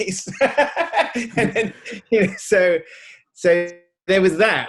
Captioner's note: Edgar laughing